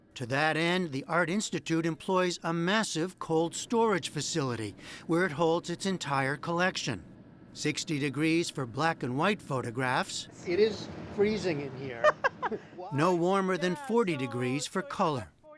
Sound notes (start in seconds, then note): 11.9 laughter